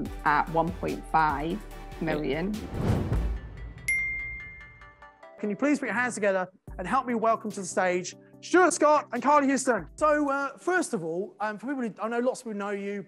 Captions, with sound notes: at £1.5 million. (whooshing sound) (ding sound) - Can you please put your hands together and help me welcome to the stage Stuart Scott and Carly Houston. So, first of all, for people who, I know lots of people know you,